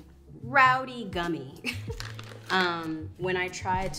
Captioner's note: giggles